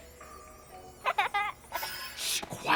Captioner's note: children Laughing